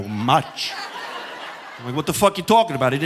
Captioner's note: audience laughing